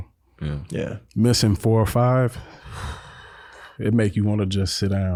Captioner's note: exhales